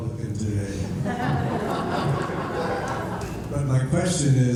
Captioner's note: laughter